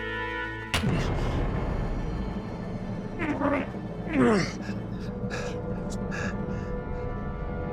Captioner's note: tense music; ed grunts; tense music